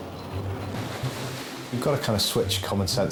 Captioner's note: water sloshing